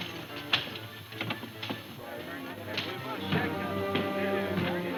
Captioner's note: crowd murmuring